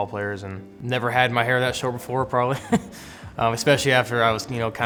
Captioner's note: chuckles